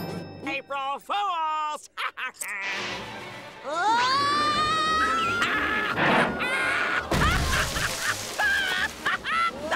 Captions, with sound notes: April Fools'! [laughing] Whoa! Hah! Ha-hah! [laughing hysterically]